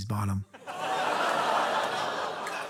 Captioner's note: studio audience exclaiming